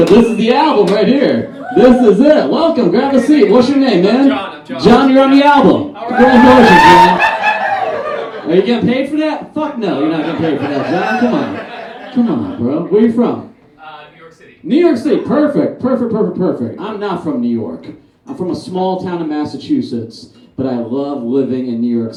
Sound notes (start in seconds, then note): 6.0 audience Cheers; 10.1 audience Laughs